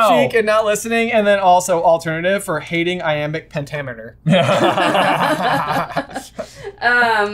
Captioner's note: laughter